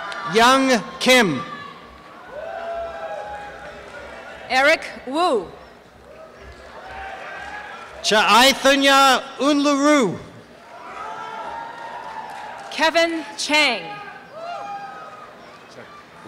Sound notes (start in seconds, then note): 13.9 applause and cheering